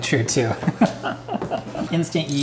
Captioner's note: laughing